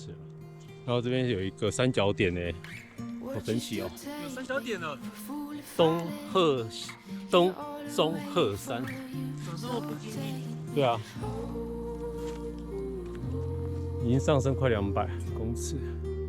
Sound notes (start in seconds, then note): 7.5 stuttering